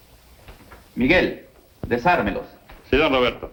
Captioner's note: spanish